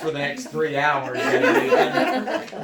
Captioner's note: laughter